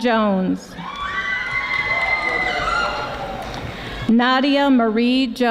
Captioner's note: audience applauding